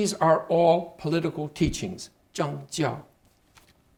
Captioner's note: speaking Chinese